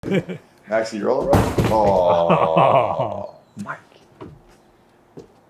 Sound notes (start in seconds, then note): 0.0 laughing; 1.2 bike clatters to ground